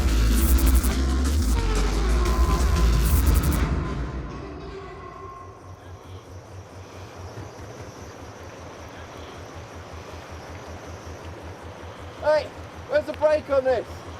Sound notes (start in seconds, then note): 4.7 engine motor running